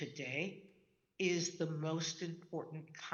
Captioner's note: none